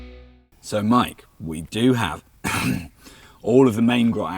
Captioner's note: coughs